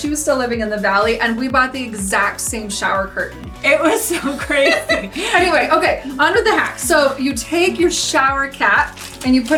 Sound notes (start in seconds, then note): 4.0 both laugh